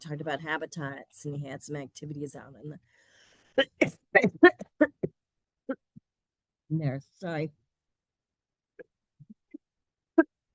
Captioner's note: coughing